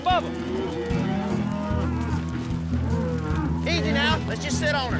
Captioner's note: mooing